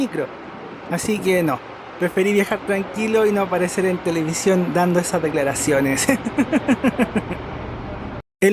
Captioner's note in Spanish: risas